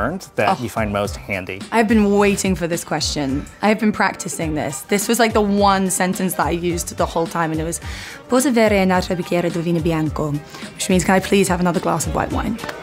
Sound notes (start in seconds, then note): 8.2 speaking italian